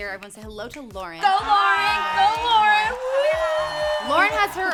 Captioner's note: crowd cheering